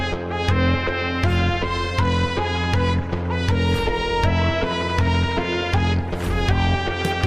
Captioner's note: mechanical footsteps